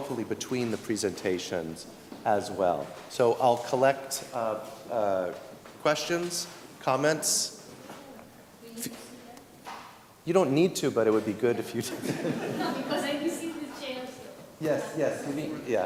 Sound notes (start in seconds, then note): 11.8 laughter